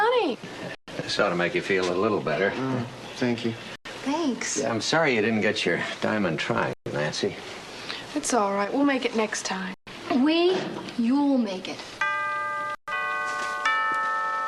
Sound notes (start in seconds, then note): 12.0 doorbell rings